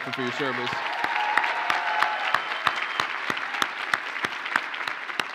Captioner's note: audience cheers and applauds